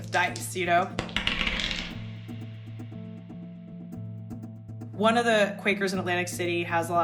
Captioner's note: soundbite of dice rolling